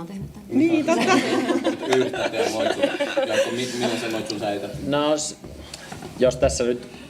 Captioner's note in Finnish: naurua